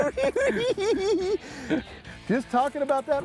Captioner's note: cackling